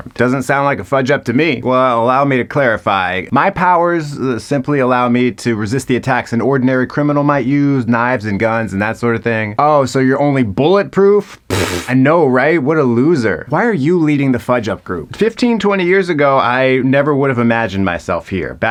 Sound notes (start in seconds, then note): 11.4 scoffs